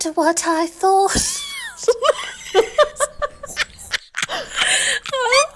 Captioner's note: laughing